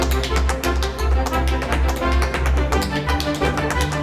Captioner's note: tap dancing